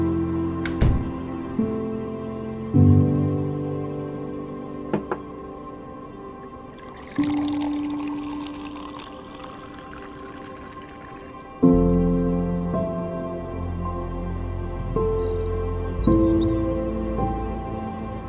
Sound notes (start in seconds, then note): 0.7 door slams; 6.4 water pouring; 14.8 birds tweeting